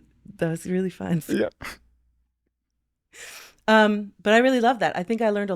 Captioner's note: chuckling